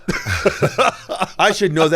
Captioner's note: both laugh